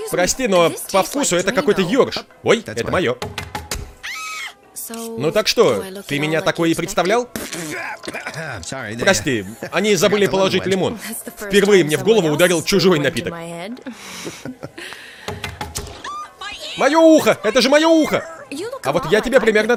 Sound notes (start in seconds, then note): 3.0 knife chopping; 4.0 woman screams; 7.3 splutters, coughs; 13.8 both chuckle; 15.2 knife chopping; 16.0 screams